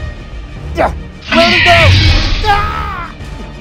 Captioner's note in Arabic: يصيح الرجال